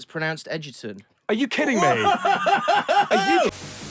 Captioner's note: laughs